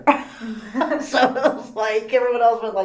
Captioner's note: all laugh